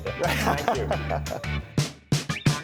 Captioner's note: all laughing; upbeat funky music